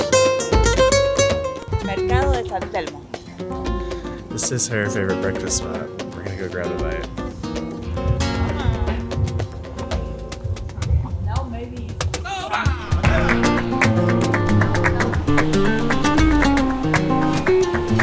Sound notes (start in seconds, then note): 2.1 speaking Spanish; 8.3 lively acoustic music continues